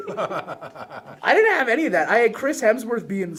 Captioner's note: laughs